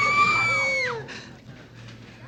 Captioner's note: screaming